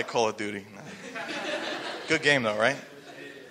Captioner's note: laughing